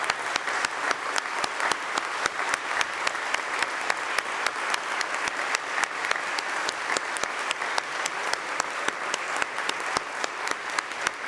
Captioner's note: applause